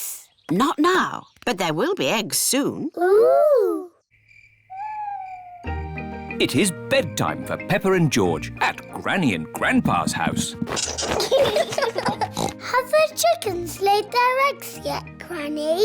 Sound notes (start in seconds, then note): 4.0 crickets chirping; 10.8 both giggling; 12.2 oinks